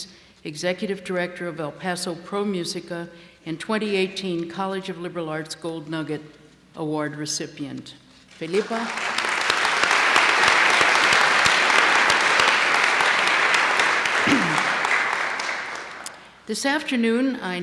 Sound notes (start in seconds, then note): 8.4 applause